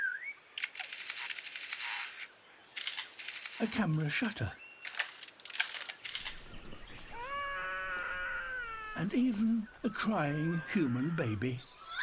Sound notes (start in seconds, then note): 0.6 imitates camera shutter clicking; 7.1 baby cries; 11.8 imitates baby crying